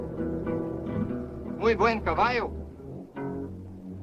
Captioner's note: suspenseful orchestral music; speaks Spanish